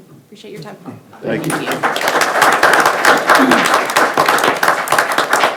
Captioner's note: attendees applauding